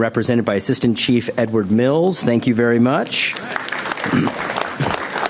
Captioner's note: applause